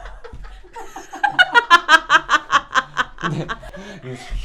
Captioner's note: laughing